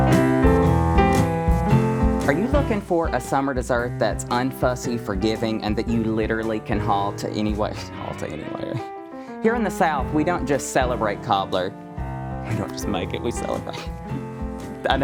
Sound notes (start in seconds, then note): 7.8 laughs; 14.4 laughs